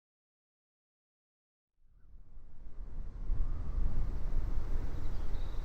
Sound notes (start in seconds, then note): 2.0 whirling wind